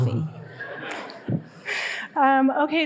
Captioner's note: audience laughing